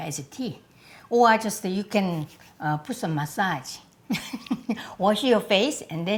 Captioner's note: chuckles